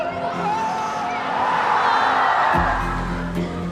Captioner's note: cheering